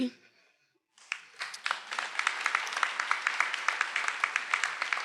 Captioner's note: attendees applauding